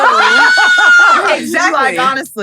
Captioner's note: screams